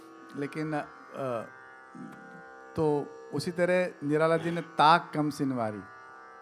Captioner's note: poetry recital